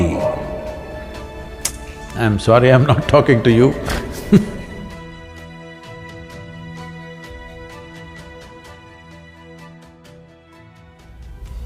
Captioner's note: laughs